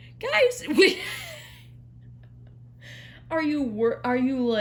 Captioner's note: laughs